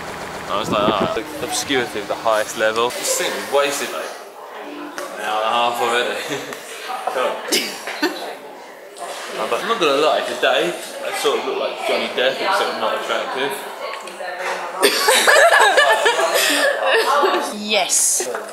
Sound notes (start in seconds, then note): 7.5 off camera laugh; 14.8 laughs